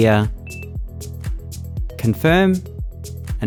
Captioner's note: device beeps